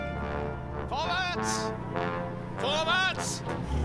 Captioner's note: speaking german